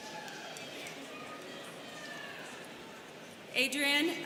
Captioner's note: students cheering